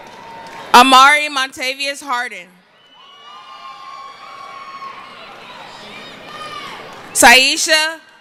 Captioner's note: cheering